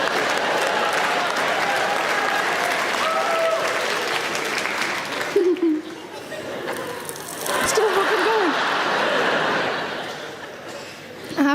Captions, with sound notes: (audience clapping) (chuckling) (space dust crackling) It's still fuckin' going. (audience laughing)